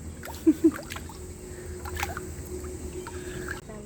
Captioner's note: splashing